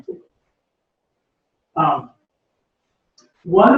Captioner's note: pause